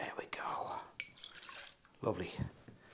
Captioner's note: liquid splashing